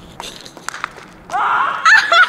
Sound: laughs; toy falls onto concrete

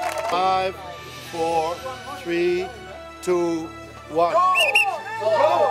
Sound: cheers and whistles; sound of the whistle

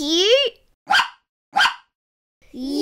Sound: bark

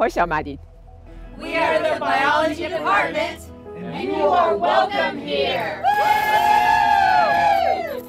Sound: cheering

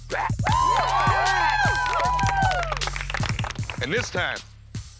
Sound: cheering

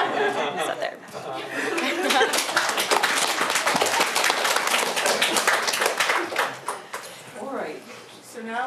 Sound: applause

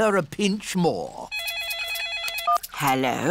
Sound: phone rings

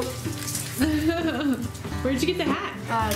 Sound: laughs

